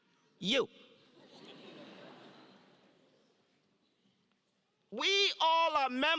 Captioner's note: laugh